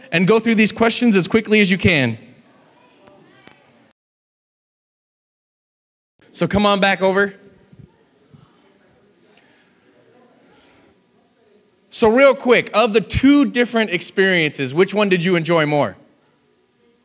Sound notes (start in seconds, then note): 2.4 audience chatting; 7.4 audience chatting